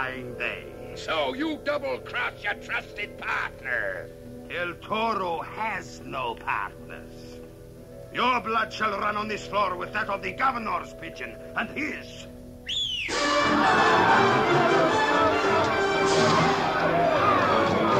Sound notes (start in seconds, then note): 11.9 screaming and scuffling; 12.6 whistling